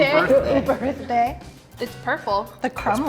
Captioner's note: laughing